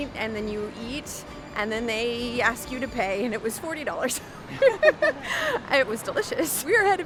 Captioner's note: both laugh